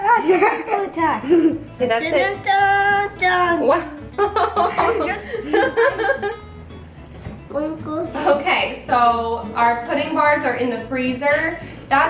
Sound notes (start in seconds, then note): 2.7 humming; 4.1 laughing